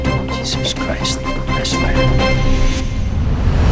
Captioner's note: whispering